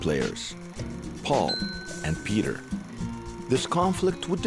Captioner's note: dinging